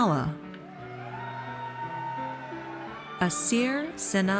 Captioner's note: audience cheers